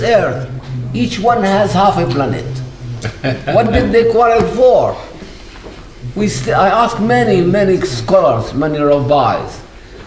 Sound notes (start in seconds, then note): 3.0 laughs